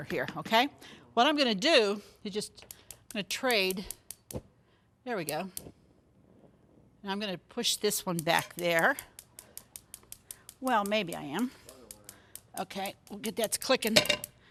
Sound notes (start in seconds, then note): 9.9 stove burner clicking